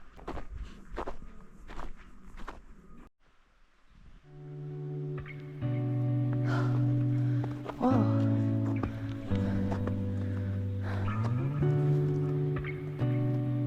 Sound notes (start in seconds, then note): 6.4 groaning…